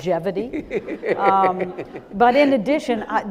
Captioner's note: audience laughing